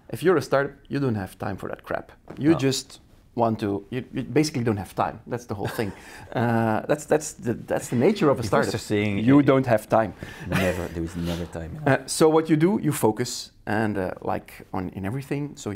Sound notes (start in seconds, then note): 5.6 laughing; 10.4 laughs